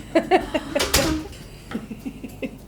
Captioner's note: door closing; laughs